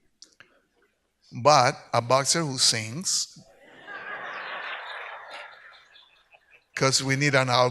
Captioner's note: audience laughs